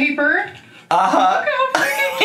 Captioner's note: laughs